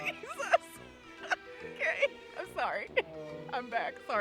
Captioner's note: laughing